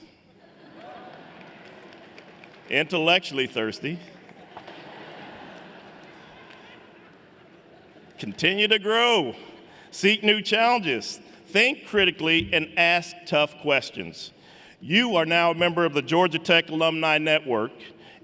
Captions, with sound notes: [APPLAUSE] Intellectually thirsty. [LAUGHTER] Continue to grow, seek new challenges, think critically and ask tough questions. You are now a member of the Georgia Tech alumni network